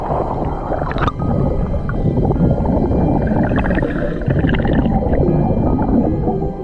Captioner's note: suspenseful music continues; water bubbling